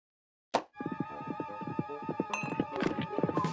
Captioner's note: hoofbeats approaching